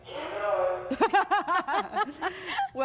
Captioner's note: both laugh